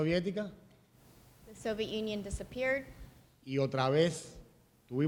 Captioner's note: speaking in Spanish; speaking in Spanish